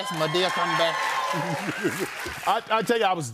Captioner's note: laughs